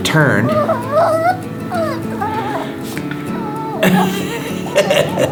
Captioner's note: Wiggles whining; laughs